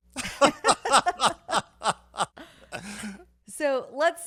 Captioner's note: laughing